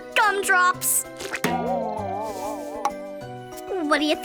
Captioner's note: gelatin squelches; boings